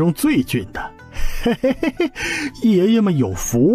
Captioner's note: chuckles